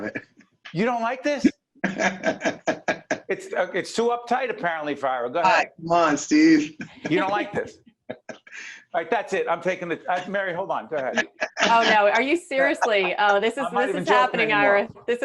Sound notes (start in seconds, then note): 1.8 laughing